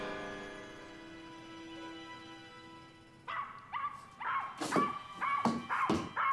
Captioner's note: somber music; dog barking